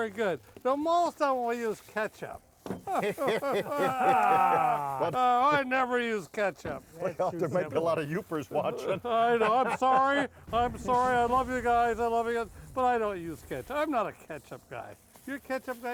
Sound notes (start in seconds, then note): 2.8 all groaning and laughing; 8.5 laughing